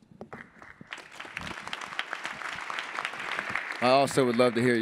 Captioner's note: attendees applauding